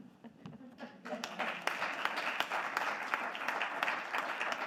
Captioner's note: audience clapping